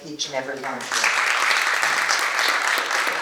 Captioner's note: applause